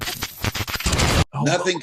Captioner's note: static cackles